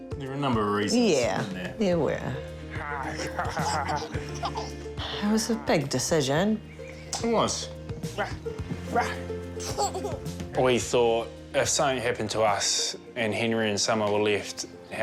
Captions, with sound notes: - There were a number of reasons, weren't there? - Yeah, there were. - (GROWLS PLAYFULLY) - (LAUGHS) - It was a big decision. - It was. Rah! Rah! - (LAUGHS) We thought, 'If something happened to us and Henry and Summer were left,